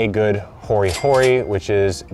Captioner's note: cash register rings